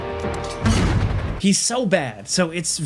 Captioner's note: missile fires